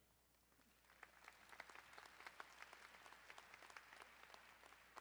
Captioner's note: crowd applauding